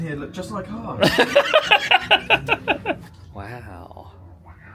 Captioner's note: laughs